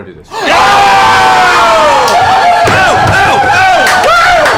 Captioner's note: cheering